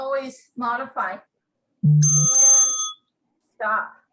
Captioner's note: bell rings